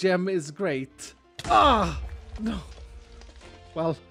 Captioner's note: creeper explosion